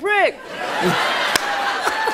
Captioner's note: laughter